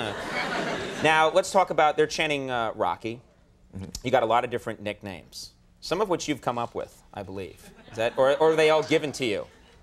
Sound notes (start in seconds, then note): 0.3 audience titters; 7.7 scattered laughter